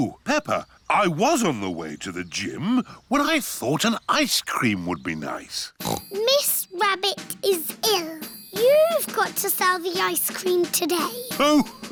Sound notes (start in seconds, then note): 5.8 snorts